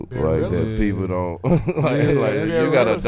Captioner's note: laughs